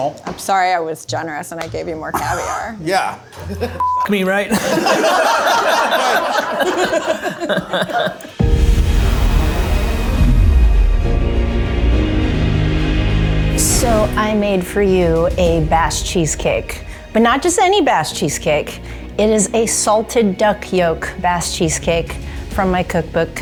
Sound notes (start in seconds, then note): 4.3 group laughing; 8.7 screen whooshing; 8.7 upbeat music